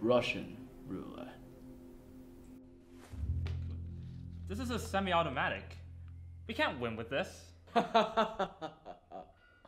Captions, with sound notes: Russian roulette. This is a semi-automatic. We can't win with this! *laughs even more menacingly*